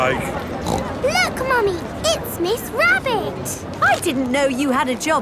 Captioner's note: snorts